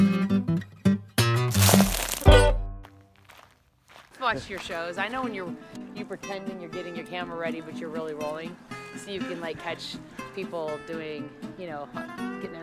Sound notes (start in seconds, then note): 0.0 cheerful guitar music; 1.4 dirt grinds